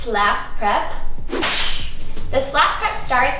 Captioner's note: imitates slap; whip cracks